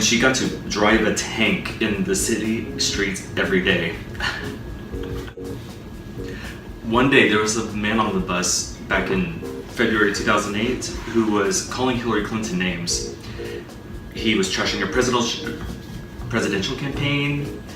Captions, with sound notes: and she got to "drive a tank in the city streets" every day. [giggle] One day, there was a man on the bus back in February 2008 who was calling Hillary Clinton names. He was trashing her presidential campaign